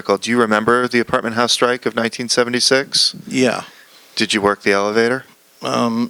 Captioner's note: none